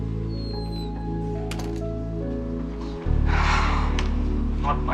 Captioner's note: door slams